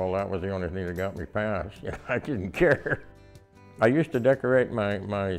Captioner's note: laughs